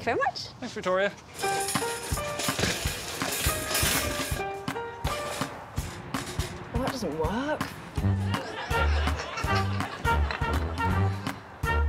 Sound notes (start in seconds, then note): 1.8 shelf rattling; 1.8 upbeat music; 8.2 audience chuckling